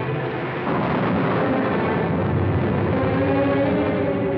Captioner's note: thunder